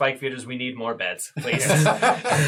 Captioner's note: all laugh